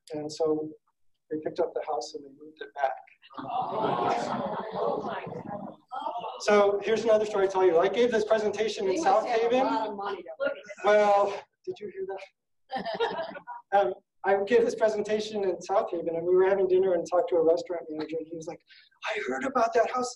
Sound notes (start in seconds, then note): 3.4 audience exclaiming; 12.7 laughing